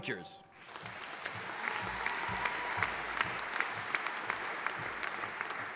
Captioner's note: audience applauding